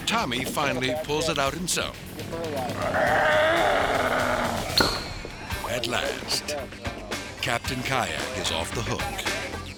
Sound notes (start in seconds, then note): 2.8 growling; 4.8 hook popping; 9.5 upbeat music